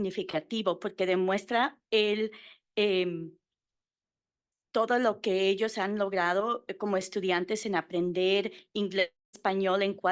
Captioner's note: Spanish